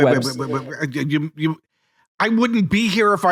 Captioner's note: babbling